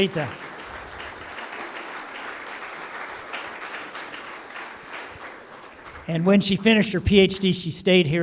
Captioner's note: applause